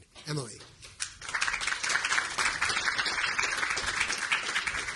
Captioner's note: audience applauding